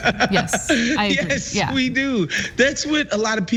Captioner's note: laugh